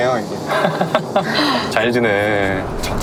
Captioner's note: host laughs, smiling widely